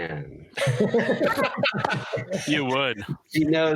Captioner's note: laughter